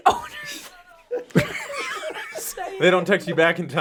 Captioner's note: all laugh